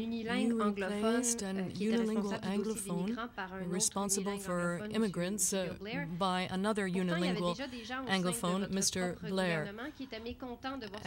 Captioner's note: speaking french